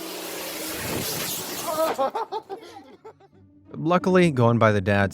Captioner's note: father yells and laughs